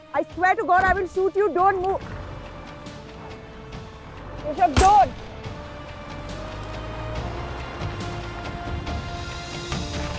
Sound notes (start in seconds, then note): 4.7 Gunshot; 6.3 Car moving